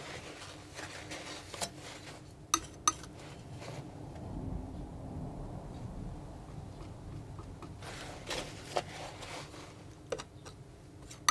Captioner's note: tapping on paint